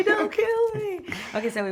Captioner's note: laughter